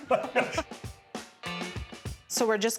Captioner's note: laughing